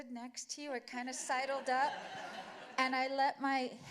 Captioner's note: laughter